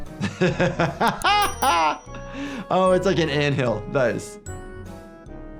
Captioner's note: laughs